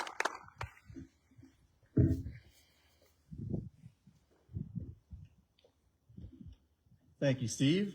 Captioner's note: applause